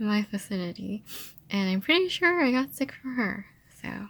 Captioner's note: sniffling